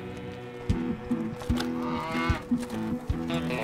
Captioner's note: bull grunts